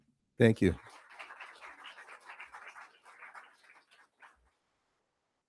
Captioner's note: crowd applauding